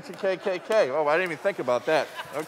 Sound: laughter

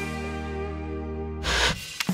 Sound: Static

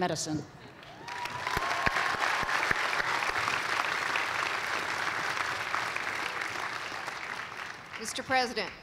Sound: cheers and applause

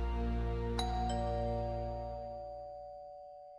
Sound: doorbell rings

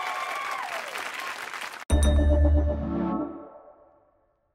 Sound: cheers and applause

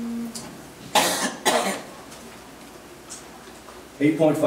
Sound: coughs

